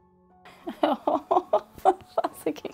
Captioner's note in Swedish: Skratt